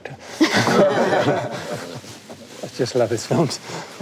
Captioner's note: panelists laugh